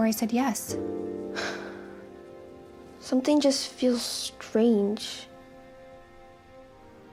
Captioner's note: sighs